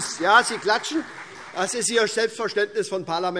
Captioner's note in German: Beifall SPD - Demonstrativer Beifall CDU und BÜNDNIS 90/DIE GRÜNEN